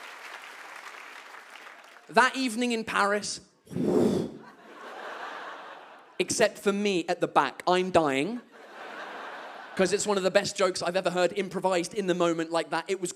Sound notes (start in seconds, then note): 3.8 whoosing sound